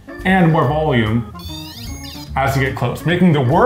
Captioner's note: device whining